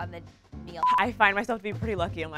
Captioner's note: monotonous high pitch sound